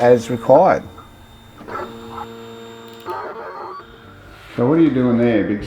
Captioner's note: machine continues to whir